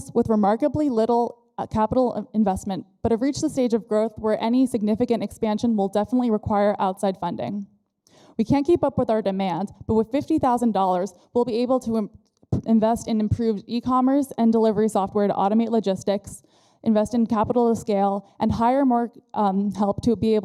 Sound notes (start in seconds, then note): none